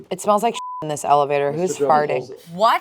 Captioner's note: beep